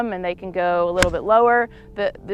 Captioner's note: golf ball smacks